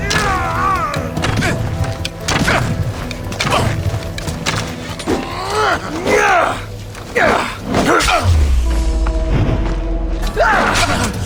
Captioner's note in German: stöhnen; schreien; stöhnen